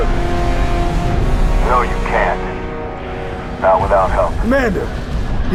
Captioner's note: radio